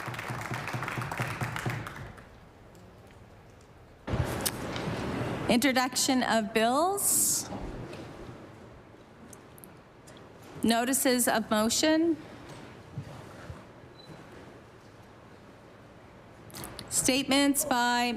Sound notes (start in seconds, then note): 1.7 applause